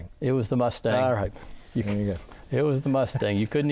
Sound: laughing

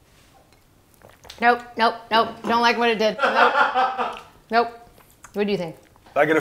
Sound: laughing

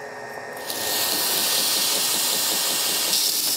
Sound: grinder whirrs

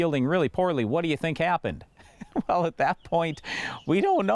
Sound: laughs

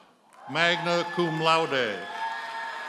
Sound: audience cheers and applauds

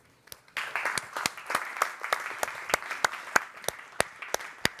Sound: group applauding

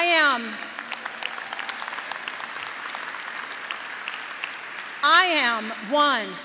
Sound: graduates applauding

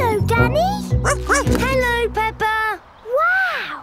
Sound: snorts; barks

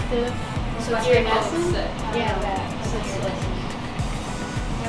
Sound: background chatter

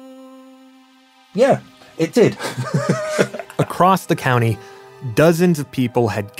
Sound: laughs

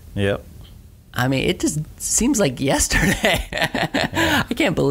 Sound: laughs

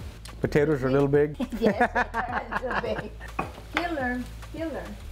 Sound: cook laughs

